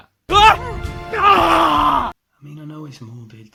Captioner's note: screams